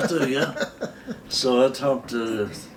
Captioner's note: both laughing